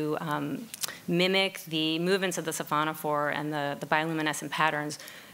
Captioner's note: speaking in foreign language